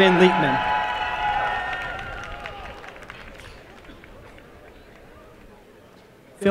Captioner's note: applause and cheering